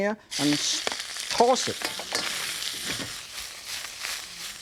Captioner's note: sizzling cooking sounds